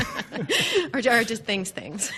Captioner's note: both laugh